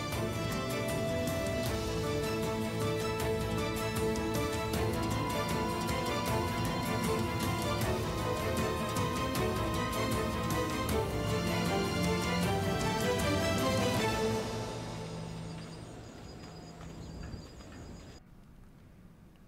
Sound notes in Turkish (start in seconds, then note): 15.4 Ayak sesleri; 15.4 Kuş cıvıltısı sesleri